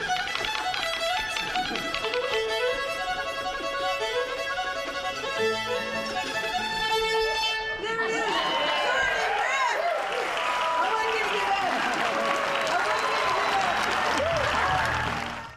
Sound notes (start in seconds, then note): 8.0 cheers and applause; 8.2 applause